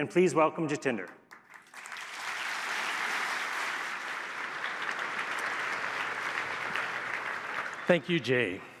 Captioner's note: applause